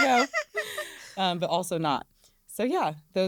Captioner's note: laughter